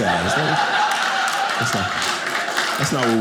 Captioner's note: audience laughing